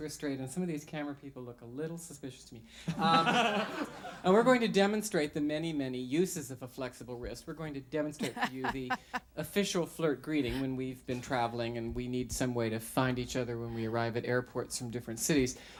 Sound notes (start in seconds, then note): 2.9 other singers and audience laugh; 8.2 host laughs